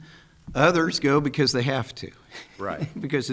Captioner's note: chuckles